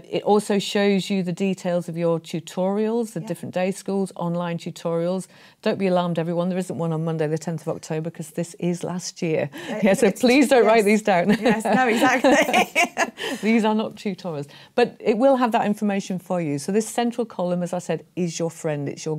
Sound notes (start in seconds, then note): 11.2 laughs